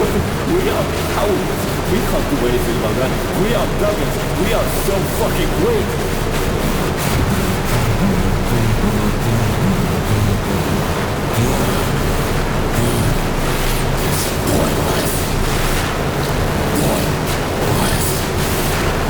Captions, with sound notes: But we are powerless; we can't do anything about that! We are beggars, we are so fucking weak! *Heavy breathing, getting heavier over time* It's POINTLESS. POINT. LESS.